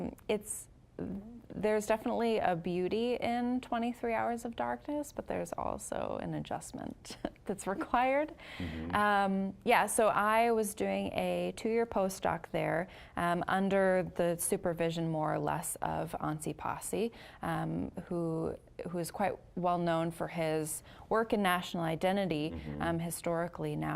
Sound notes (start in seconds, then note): 8.6 chuckling